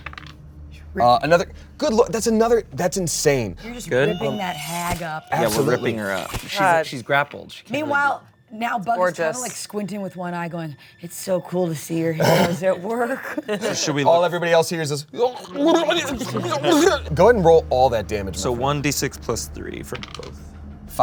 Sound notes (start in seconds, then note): 0.0 die rolls; 13.1 all laugh; 15.1 gargles